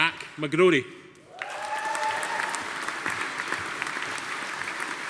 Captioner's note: audience applauding